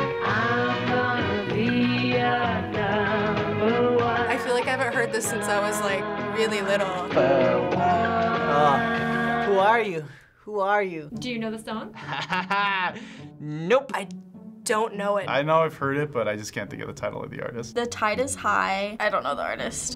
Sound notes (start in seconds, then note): 7.1 singing along; 11.9 laughing